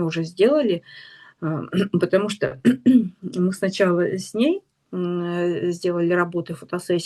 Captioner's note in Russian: откашливается